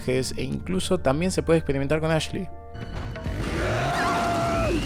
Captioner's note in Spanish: grito